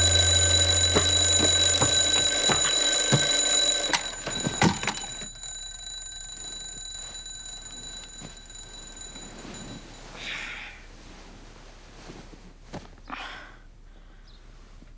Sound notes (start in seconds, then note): 0.0 ringing; 4.8 muffled ringing continues; 10.2 ringing stops